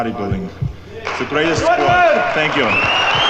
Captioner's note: crowd cheering